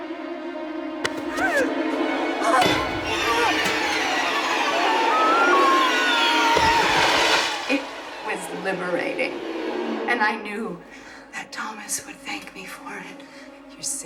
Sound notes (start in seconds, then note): 1.1 Connie screaming; 7.7 scary music